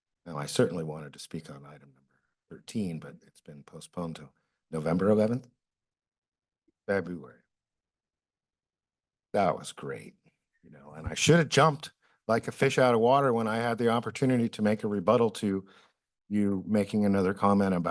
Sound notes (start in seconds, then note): 7.5 pause